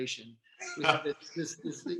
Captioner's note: laughing